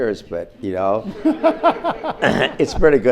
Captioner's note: audience laughs